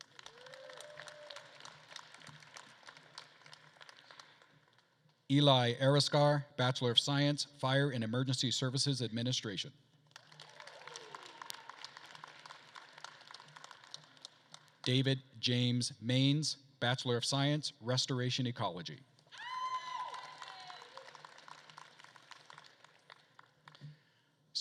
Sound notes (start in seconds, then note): 0.0 attendees applauding and cheering; 10.1 attendees applauding and cheering; 19.3 attendees cheering; 19.4 attendees applauding